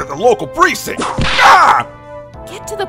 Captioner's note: whip crack!